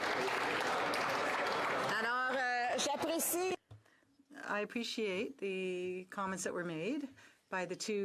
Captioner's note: applause; speaking French